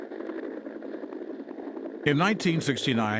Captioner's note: helicopter whirring